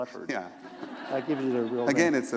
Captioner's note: laughter